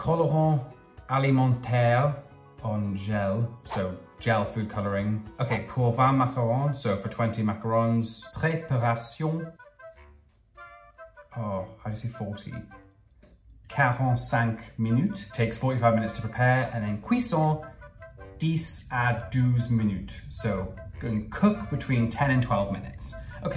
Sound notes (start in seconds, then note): 0.1 speaking in foreign language; 5.9 speaking in foreign language; 8.7 speaking in foreign language; 9.8 playful music; 13.9 speaking in foreign language; 17.2 speaking in foreign language